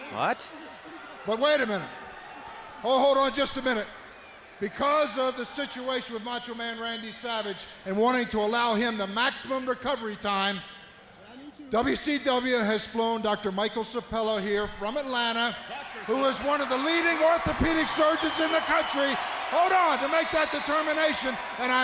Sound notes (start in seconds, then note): 18.8 crowd clamoring